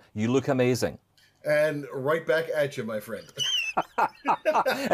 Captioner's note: laughs